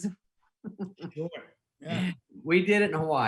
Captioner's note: laughing